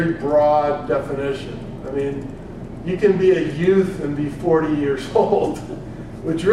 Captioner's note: laugh